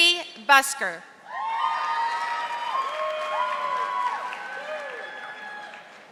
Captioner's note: audience applauding